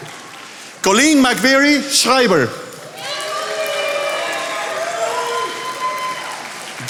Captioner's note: attendees applauding